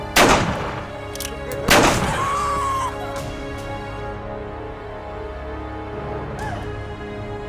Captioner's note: horn laughs